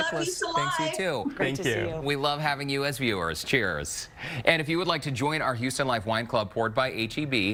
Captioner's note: laughter